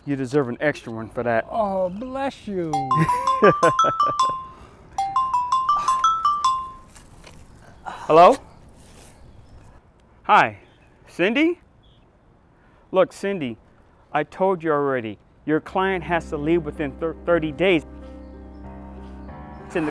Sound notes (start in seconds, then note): 2.7 cell phone chiming; 17.9 ominous music